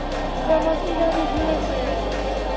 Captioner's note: crowd noise